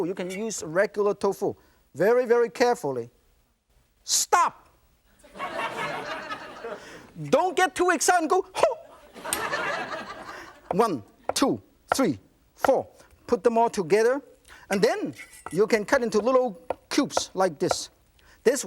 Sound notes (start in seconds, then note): 5.2 laughter; 8.9 laughter